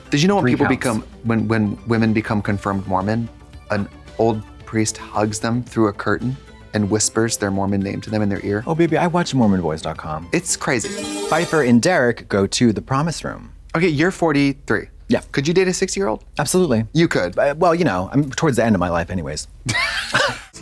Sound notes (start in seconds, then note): 10.8 bright chime